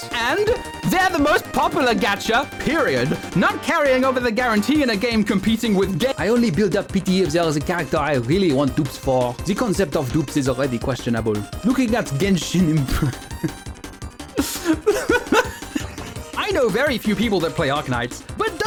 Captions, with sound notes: "And!? They’re the most popular gacha, period." "Not carrying over the guarantee in a game competing with Ge-" "I only build up pity if there’s a character I really want dupes for." "The concept of dupes is already questionable." "Looking at Genshin Impac-" (breaks down laughing) "I know very few people that play Arknights,